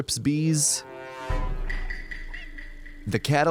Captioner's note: Among Us round start sound effect